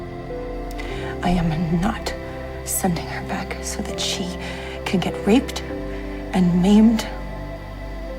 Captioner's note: voiceover